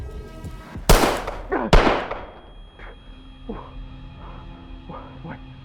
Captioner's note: gunshots